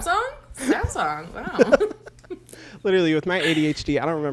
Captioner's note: both laugh